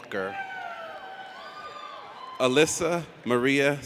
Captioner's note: audience cheers